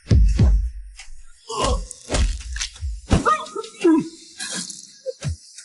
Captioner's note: grunts